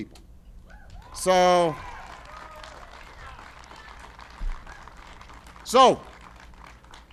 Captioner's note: applause